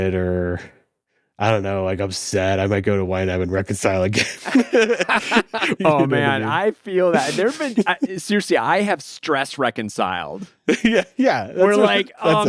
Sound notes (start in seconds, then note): 4.2 laughs